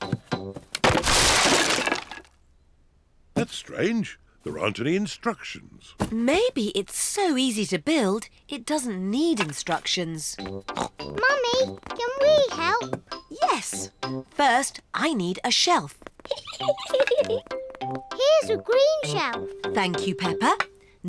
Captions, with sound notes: That's strange. There aren't any instructions. Maybe it's so easy to build, it doesn't need instructions. (SNORTS) Mummy, can we help? Yes. First I need a shelf. (GIGGLES) -Here's a green shelf. -Thank you, Peppa.